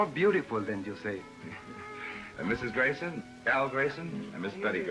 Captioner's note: laughs